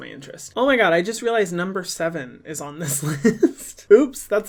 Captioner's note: laughs